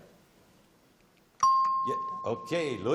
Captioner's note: dings